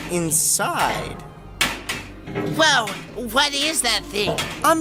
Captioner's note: menacing music; box makes clanging noises; clanging noises continue